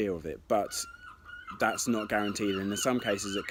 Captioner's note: seagulls chirping